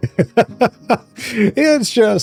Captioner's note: laughs